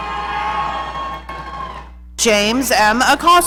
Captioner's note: audience cheering